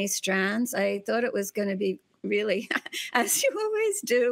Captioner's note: laughs